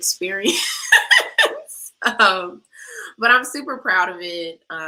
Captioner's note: laughter